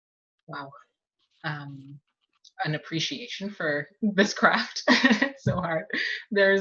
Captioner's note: laughs